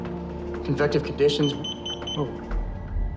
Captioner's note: machine beeps